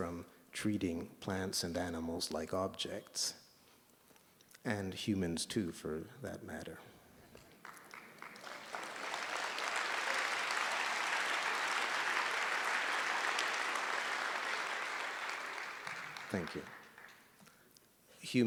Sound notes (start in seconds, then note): 7.9 applause